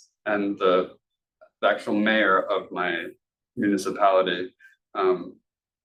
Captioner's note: speaking Spanish